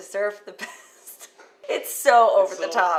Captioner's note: laughter